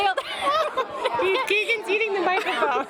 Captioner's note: laughter